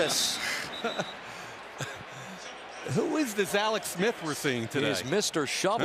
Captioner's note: laughs